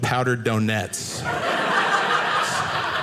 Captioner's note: audience laughing